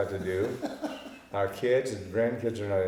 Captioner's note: laughing